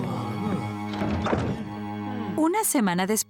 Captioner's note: caterpillar noises; door closing